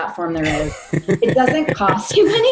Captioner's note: laughing